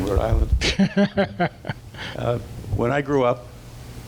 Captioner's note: laughs